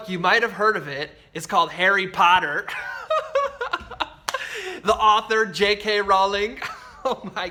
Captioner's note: chuckles